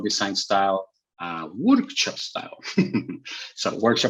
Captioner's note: chuckles